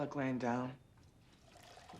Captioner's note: water run